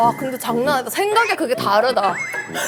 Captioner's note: laughing at her own words